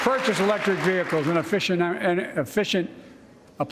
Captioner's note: applause